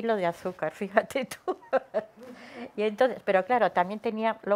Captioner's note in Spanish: risas